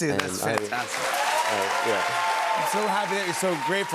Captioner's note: cheers and applause